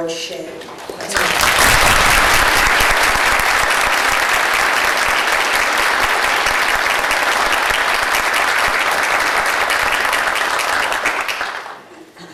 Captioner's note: applause